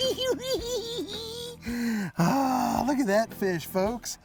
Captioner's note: laughing